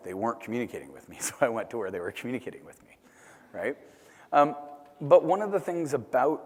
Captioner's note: laugh